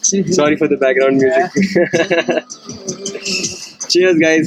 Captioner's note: chuckles